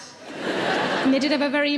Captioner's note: audience laughs